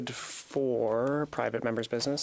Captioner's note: speaking French